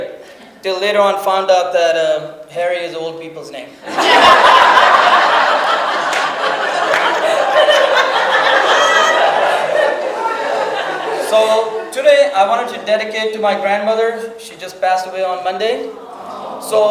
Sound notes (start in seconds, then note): 3.8 audience laughs